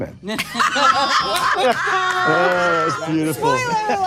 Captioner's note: panelists laughing